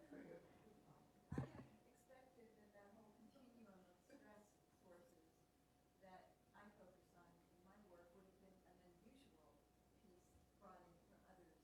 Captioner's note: laughter